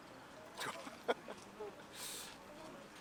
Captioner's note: laughs